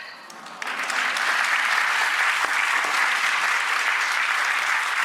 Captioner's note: audience applauds